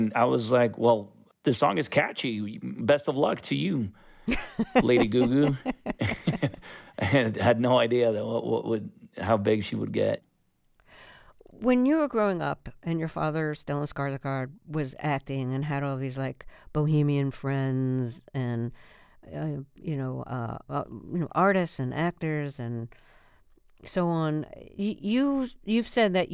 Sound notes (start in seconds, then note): 4.2 laughter